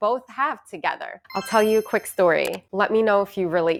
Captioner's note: chimes ringing